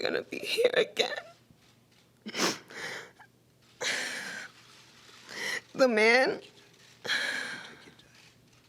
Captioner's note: crying